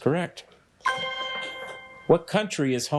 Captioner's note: bell dings